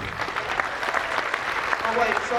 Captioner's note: applause